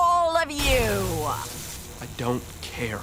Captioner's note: tazer buzzing